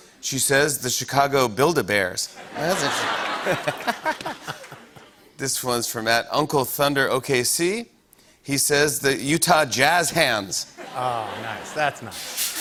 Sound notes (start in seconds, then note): 2.4 laughter; 10.7 laughter